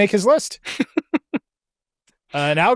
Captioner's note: laughs